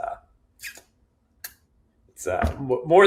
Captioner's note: blows kiss